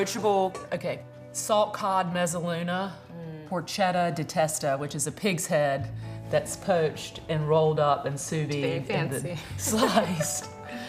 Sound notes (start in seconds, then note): 9.7 laughing